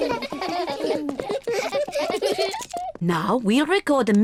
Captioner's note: all laugh